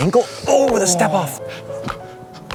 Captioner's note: sighs with disappointment